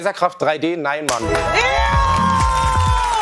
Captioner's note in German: Jubel